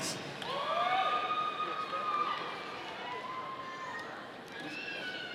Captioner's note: audience applauding